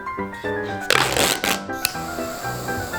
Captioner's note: tape stretching; flame whooshing